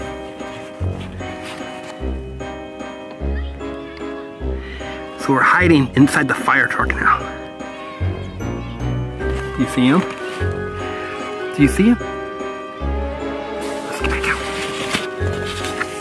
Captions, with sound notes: (spooky whimsical music) So we're hiding inside the firetruck now. (kids chanting in distance) Do you see 'em? Do you see 'em? Let's get back down.